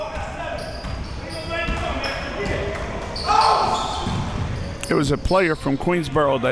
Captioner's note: audience chattering and yelling